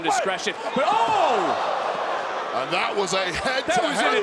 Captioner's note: audience gasps